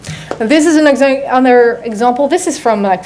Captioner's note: none